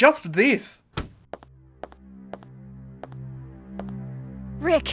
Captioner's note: footsteps